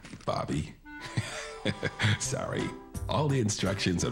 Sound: chuckles

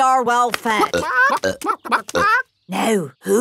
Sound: clucking

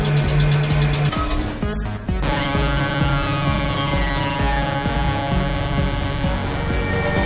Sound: metal clangs; laser zapping

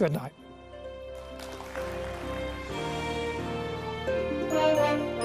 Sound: applause

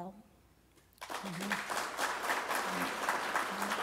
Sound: applause

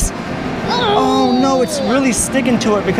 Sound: groans

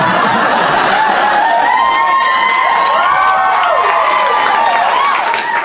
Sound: cheers

